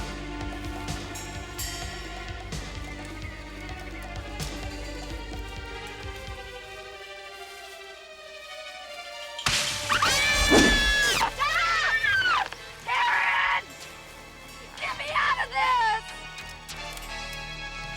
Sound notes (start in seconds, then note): 9.7 branches breaking; 9.9 ladies screaming